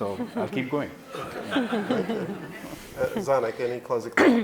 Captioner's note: laughing